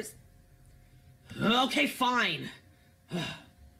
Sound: sigh

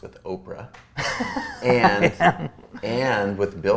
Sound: A.J. laughs

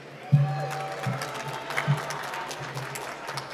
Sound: applause

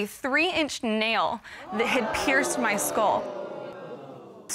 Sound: audience gasping

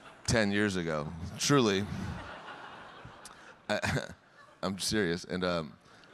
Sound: audience laughing

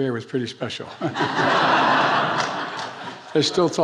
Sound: attendees laughing

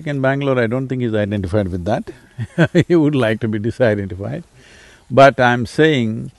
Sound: laughs

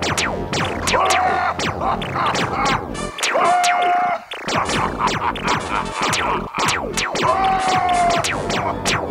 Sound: maniacal laughing

